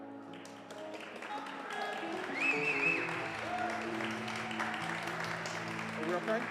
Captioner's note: audience applauds, whistles and cheers